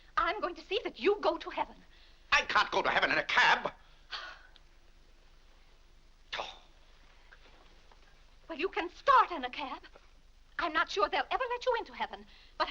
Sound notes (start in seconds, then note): 4.1 Vinnie huffs; 6.2 Mr. Day huffs